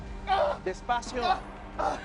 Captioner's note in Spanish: Quejidos